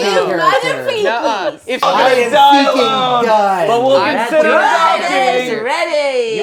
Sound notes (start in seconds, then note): 3.8 overlapping chatter